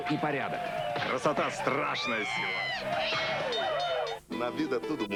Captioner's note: bell blows